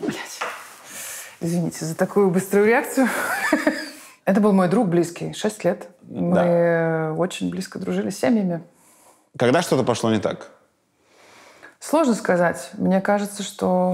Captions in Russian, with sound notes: — Блядь!… Извините, за такую быструю реакцию (смеется). Это был мой друг близкий. Шесть лет мы очень близко дружили семьями. — Когда что-то пошло не так? — Сложно сказать. Мне кажется, что…